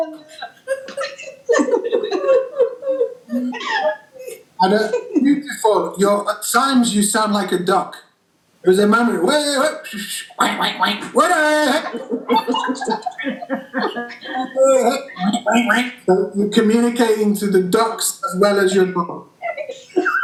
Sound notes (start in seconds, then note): 0.0 crying laughter; 9.7 whistles; 12.5 the group are all laughing